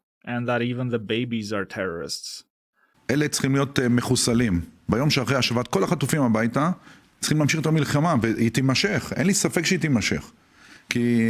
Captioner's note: israeli official speaking Hebrew, saying that the babies are terrorists